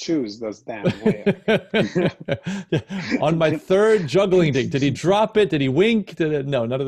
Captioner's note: laughs